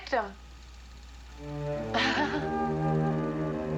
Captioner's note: nervous laughter